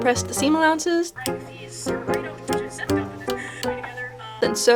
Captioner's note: scissors snipping in time to the music